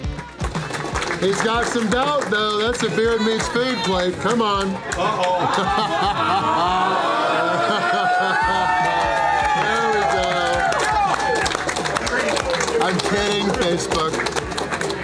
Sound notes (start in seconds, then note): 5.0 laughter; 5.0 crowd